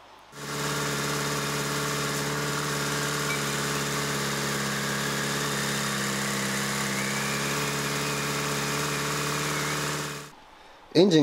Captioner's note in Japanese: エンジン音